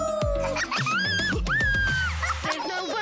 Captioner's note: bingo and bluey giggle